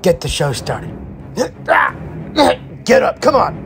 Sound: Darius grunting

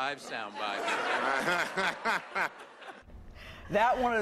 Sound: laughter

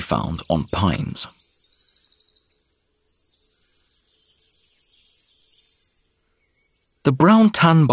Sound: sounds of nature

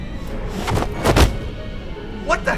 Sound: pillow rustling and thudding

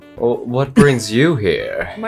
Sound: chuckles

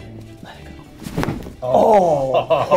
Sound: bones cracking

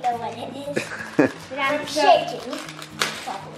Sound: laughing

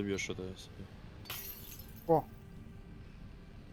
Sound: sound of broken glass

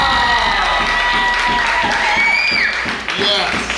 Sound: cheering

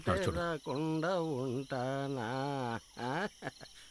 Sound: humming continues

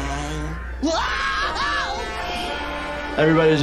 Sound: SpongeBob screaming

